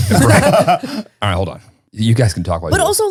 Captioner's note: all laughing